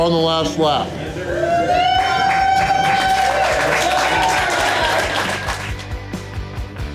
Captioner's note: crowd cheering